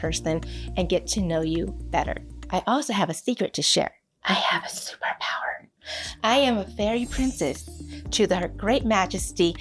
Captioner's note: whispers; speaking normally